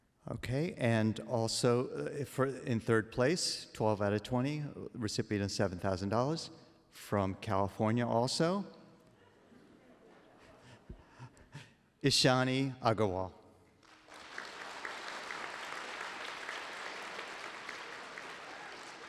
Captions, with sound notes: OK and also in third place 12 out of 20 recipient of $7,000, from California also, Ishani Agarwal. [APPLAUSE]